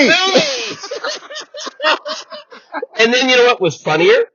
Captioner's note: wheezing/laughter